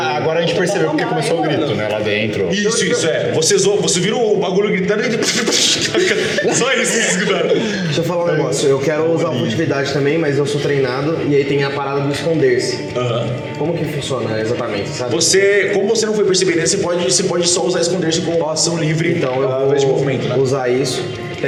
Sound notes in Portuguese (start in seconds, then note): 5.0 risadas